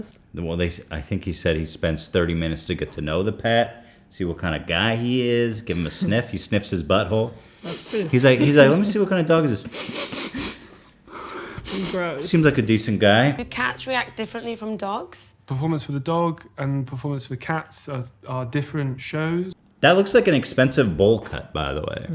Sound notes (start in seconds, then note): 7.5 sniff; 11.1 sniff